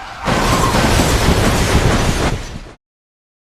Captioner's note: car crash